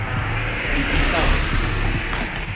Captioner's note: street noise